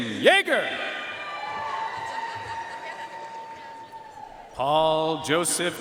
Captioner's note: audience cheering and applauding